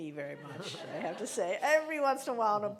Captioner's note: laughing